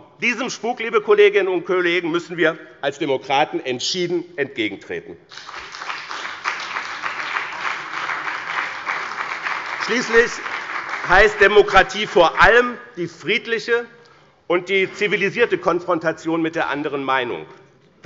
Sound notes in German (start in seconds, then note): 5.3 Beifall bei dem BÜNDNIS 90/DIE GRÜNEN und der CDU